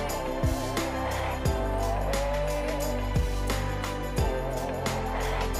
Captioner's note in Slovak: Potlesk